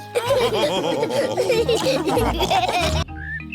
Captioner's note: all laughing